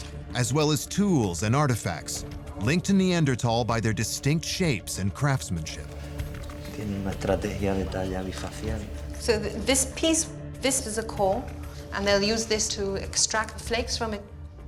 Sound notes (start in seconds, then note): 7.0 speaking Spanish